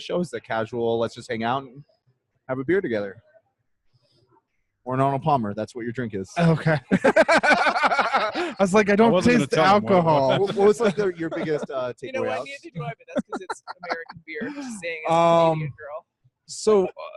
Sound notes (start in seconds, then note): 7.5 laughing